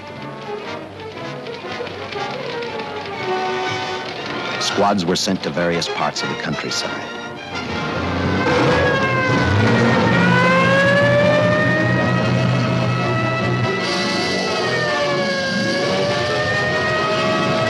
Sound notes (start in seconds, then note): 0.3 suspenseful music; 7.5 engines roaring and sirens wailing; 13.1 dramatic music; 13.1 sirens wailing